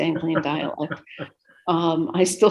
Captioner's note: interviewer chortles